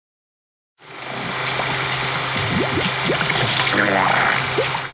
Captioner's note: film rolling